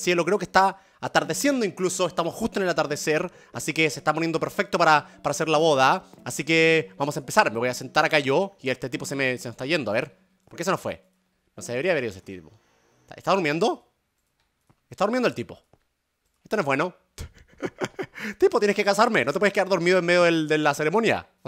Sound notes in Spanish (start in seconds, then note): 17.2 Germán ríe